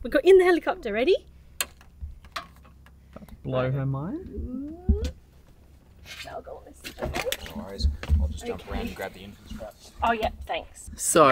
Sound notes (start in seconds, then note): 6.6 speaking faintly